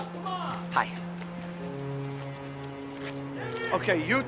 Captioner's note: vehicles approaching